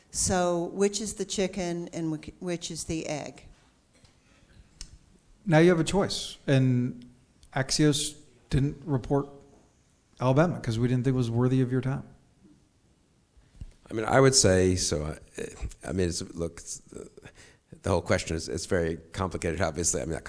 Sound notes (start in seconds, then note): none